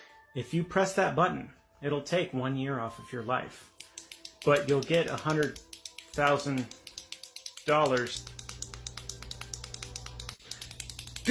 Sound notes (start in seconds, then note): 3.4 rapid clicking